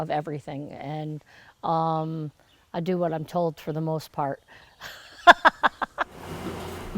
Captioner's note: laughs